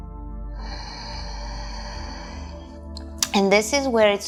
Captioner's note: breathing in